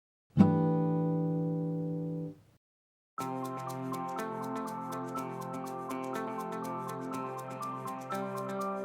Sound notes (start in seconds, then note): 0.4 chime sounds; 3.2 upbeat music